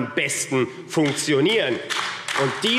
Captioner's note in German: Beifall AfD